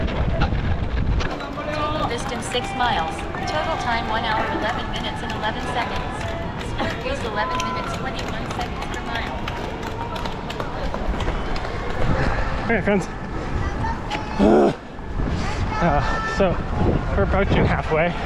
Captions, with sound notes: (wind blowing) - This is six miles. Total time, one hour 11 minutes and 11 seconds. Use 11 minutes, 21 seconds per mile. (wind blowing) All right, friends. (grunting) So, we're approaching halfway.